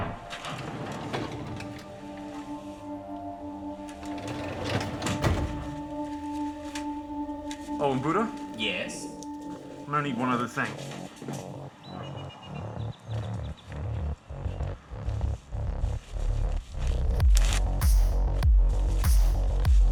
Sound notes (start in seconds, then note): 0.0 heavy drawer opening; 4.0 heavy drawer closing; 17.3 package ripping